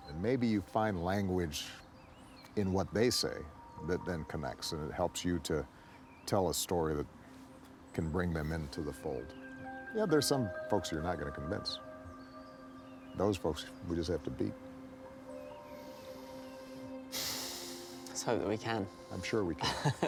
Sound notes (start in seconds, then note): 16.7 sighs; 19.6 laughing